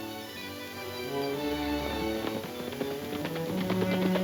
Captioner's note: horses galloping